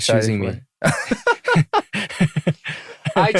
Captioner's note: laughter